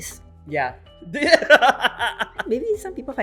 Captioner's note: laughs